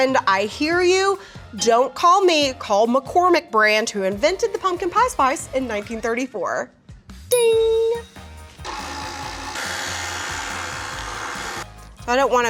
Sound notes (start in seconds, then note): 7.3 bell dings; 8.6 mixer whirring